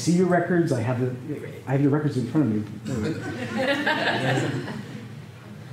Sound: laughter

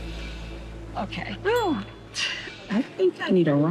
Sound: laughs

